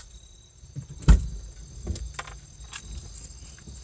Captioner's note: vehicle door is opened